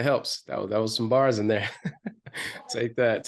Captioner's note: chuckles